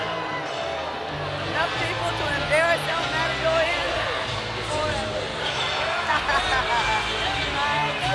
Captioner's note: laugh